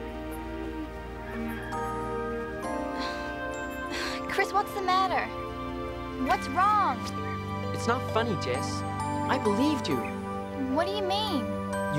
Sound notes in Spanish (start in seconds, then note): 2.9 suspira